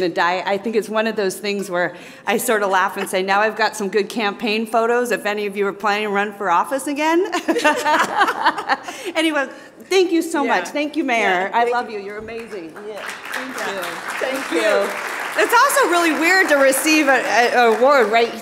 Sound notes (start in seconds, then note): 7.4 laughs; 12.2 audience applauding